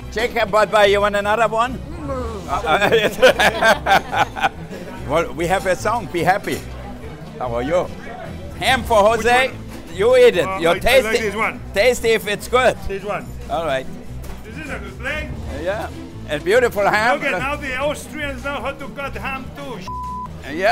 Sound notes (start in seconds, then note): 1.8 laughs